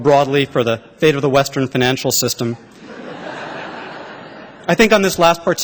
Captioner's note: laughter